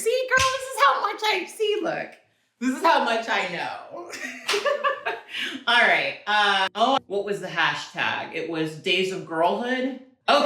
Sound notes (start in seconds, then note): 5.0 laughs